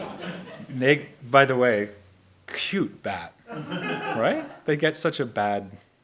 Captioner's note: audience laughs; audience laughs